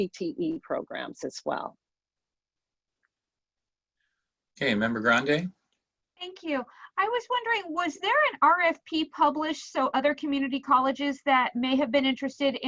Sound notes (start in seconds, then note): none